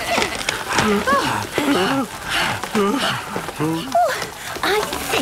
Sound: barking, squeaking, bleating; all groaning and panting

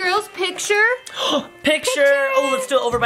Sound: Barbie Malibu gasping

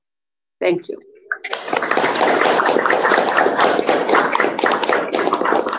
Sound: applause

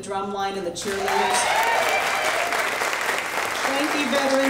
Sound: crowd cheering and applauding

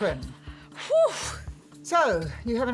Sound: exhales heavily

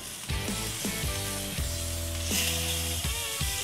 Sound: fish sizzles

